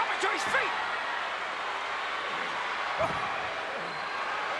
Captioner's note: crowd chattering